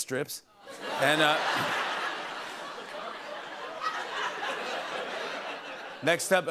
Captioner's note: laughter